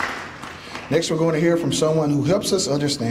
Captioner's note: applause